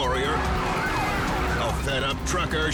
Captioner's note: siren wailing